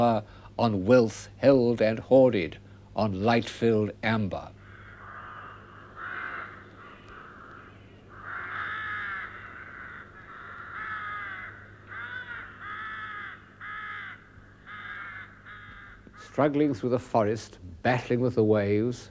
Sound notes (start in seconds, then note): 4.5 crows caw